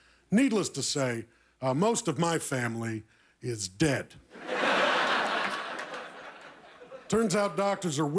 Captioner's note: laughter